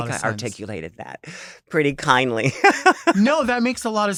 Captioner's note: chuckles